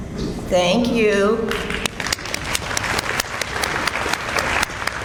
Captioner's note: audience applauds